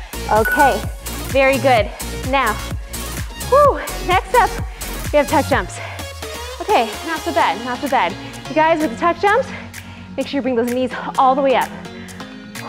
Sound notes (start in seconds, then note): 2.6 sharp exhale; 11.7 heavy breathing